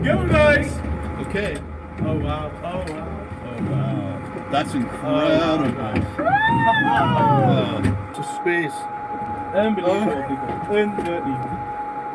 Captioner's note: cheering, whooping